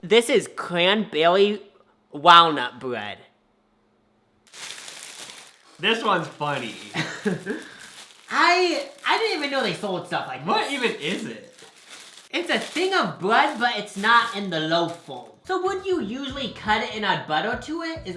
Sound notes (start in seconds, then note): 4.6 plastic rustling; 6.9 laughs